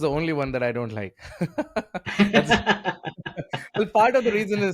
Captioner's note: both laughing